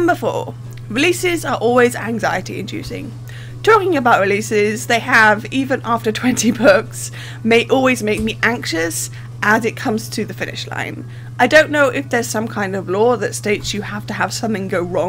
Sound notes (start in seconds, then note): 6.2 laughing